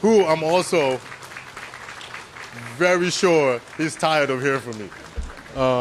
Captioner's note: applause